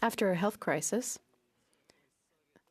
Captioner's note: speaking French